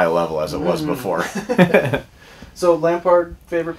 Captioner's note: laughter